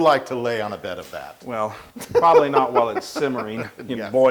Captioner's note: laugh